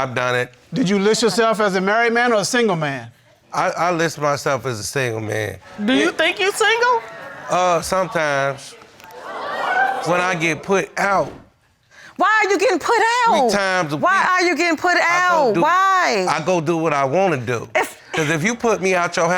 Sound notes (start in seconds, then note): 9.1 audience groans